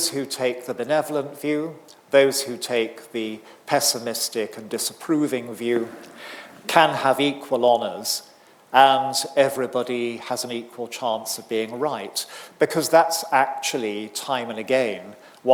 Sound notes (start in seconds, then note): none